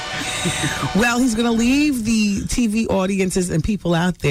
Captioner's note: audience laughing